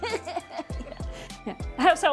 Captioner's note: laughing